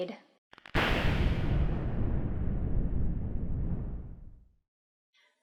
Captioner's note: lightning crackling